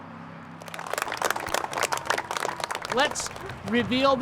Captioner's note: applause